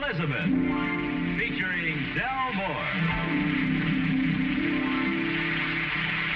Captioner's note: audience applauding